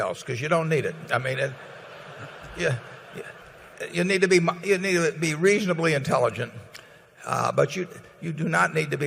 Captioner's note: laughter